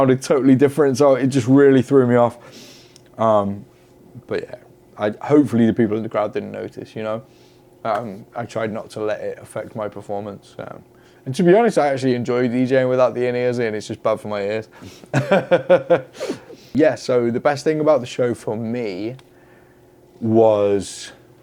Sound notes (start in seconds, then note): 15.1 laughs